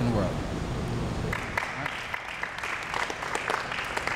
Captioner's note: applause